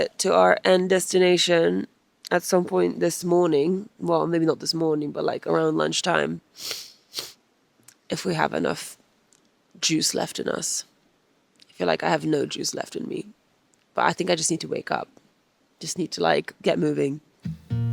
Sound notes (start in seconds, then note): 6.6 sniffs; 17.4 calm music